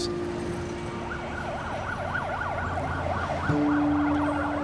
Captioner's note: siren wailing